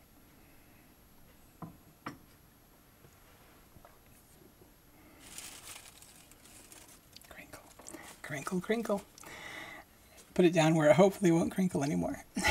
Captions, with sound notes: [paper crinkling] Crinkle, crinkle, crinkle. Put it down where it hopefully won't crinkle anymore.